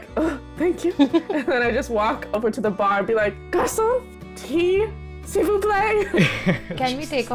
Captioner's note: laughter